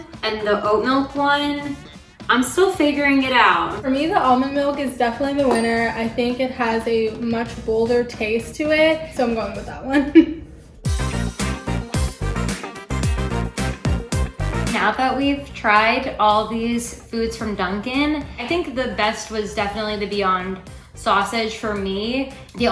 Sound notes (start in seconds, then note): 9.9 chuckles; 10.8 upbeat music